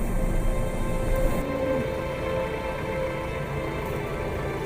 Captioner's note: tractor humming